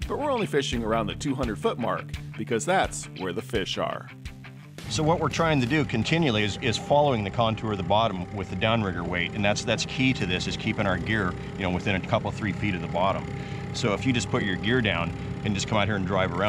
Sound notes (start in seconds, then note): 4.8 boat engine idling